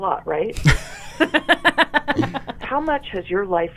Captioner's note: both laughing